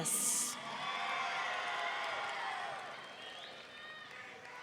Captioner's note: audience cheering